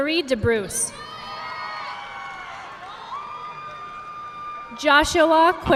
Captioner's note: audience clapping